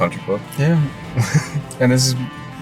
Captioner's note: laughs